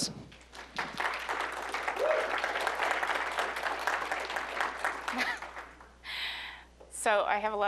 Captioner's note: applause